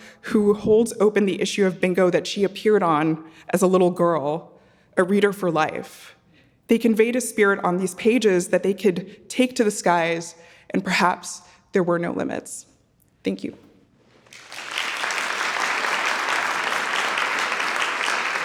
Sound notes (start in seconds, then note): 14.2 audience clapping